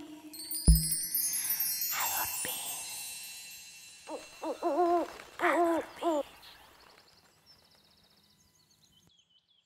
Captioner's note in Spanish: Susurrado; Sonido de lechuza